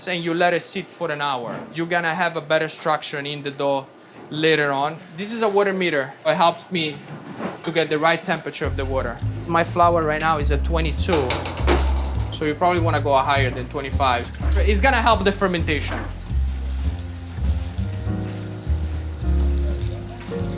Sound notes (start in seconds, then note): 11.1 cover clattering; 16.9 water spattering; 17.8 gentle music